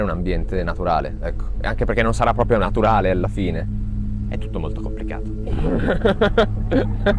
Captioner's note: laughs